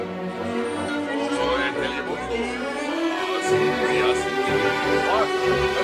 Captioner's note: accented